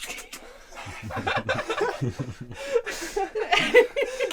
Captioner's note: laughing